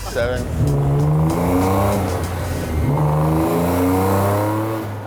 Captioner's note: car engine roaring